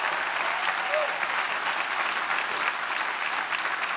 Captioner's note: audience clapping